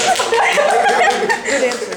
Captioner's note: laughter